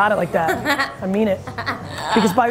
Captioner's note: laughs